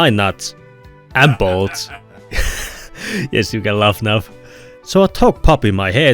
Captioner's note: laughter and gasps